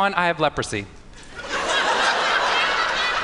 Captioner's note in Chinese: 笑聲